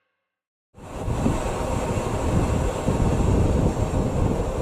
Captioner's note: rumbling approaching